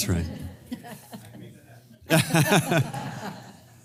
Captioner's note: laugh